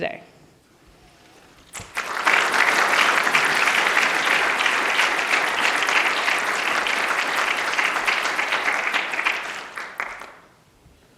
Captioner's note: applause